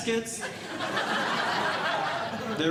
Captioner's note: audience Laughing